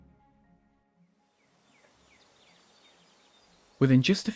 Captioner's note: birds chirping; leaves rustling in the breeze